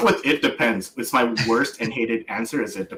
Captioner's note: laughs